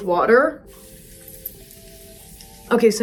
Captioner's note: spray spritzing